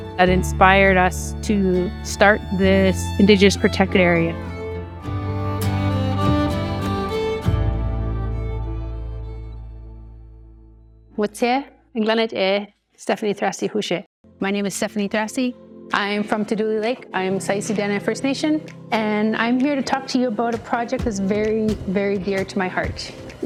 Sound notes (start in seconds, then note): 5.1 inspiring music continues; 11.3 introducing herself in Dene